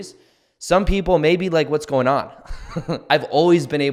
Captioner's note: chuckles